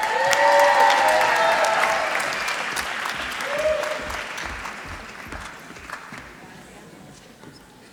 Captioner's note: applause